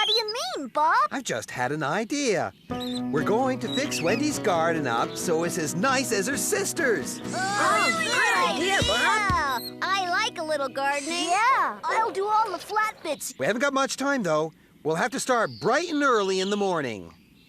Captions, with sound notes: WHAT DO YOU MEAN, BOB? I'VE JUST HAD AN IDEA. WE'RE GOING TO FIX WENDY'S GARDEN UP SO IT'S AS NICE AS HER SISTER'S! ( Cheering ) I LIKE A LITTLE GARDENING. YEAH, I'LL DO ALL THE FLAT BITS. WE HAVEN'T GOT MUCH TIME, THOUGH. WE'LL HAVE TO START BRIGHT AND EARLY IN THE MORNING.